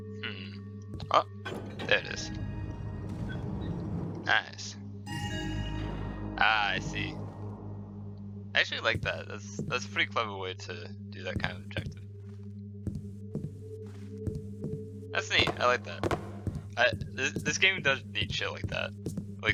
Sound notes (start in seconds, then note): 5.0 loud joyous chime